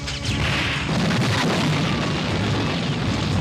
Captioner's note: explodes